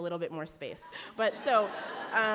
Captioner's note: audience laughs